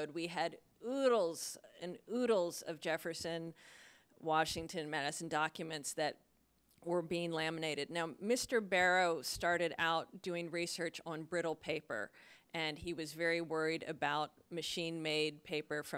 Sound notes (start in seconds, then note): none